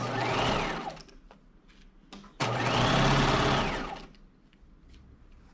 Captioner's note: sewing machine whirring